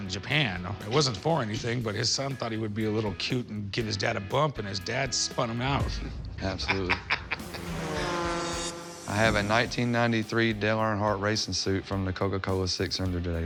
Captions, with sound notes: I know there was an exhibition race in Japan, it wasn't for anything, but his son thought he would be a little cute and give his dad a bump, and his dad spun him out. - Absolutely. - [laughs] [engines roaring] I have a 1993 Dale Earnhardt racing suit